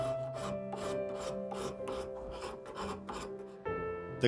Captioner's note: plaster scraping; slow music